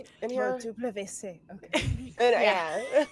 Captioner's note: speaks foreign language; cast members chuckling